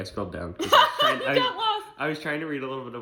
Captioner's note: laughs